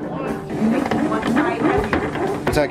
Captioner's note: electricity whirring